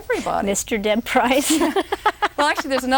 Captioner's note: roaring laughter